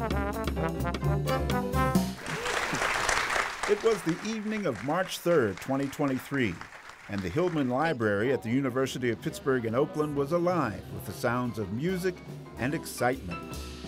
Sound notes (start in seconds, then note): 0.0 upbeat jazz music; 2.0 audience clapping